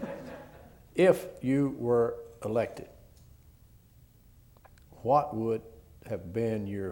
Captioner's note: laughter